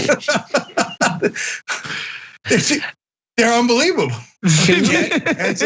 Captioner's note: laugh